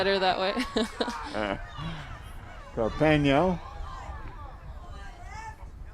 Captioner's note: laughing